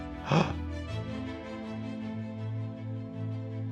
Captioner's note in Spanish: El doctor de urgencias jadea